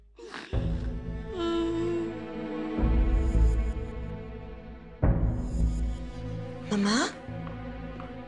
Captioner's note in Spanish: Sollozos